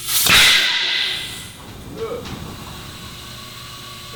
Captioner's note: air gushing